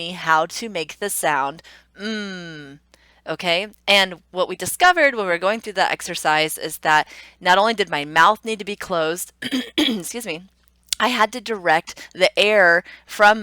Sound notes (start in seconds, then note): 9.4 clearing throat